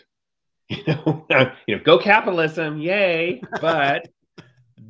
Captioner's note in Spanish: riendo